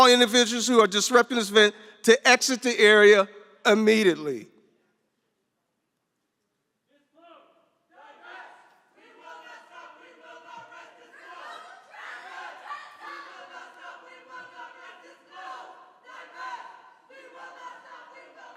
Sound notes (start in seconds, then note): 7.9 chanting